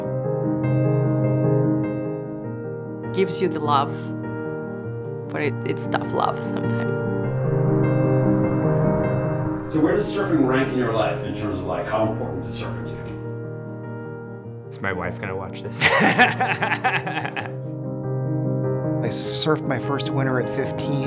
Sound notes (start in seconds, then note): 0.1 inspirational music; 6.8 inspirational music; 15.8 laughs; 17.7 inspirational music